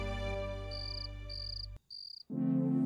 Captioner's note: insects trilling